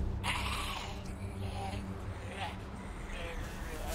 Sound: growling

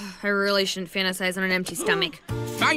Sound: sighs

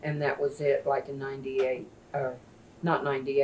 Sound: none

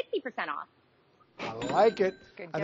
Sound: cash register dings

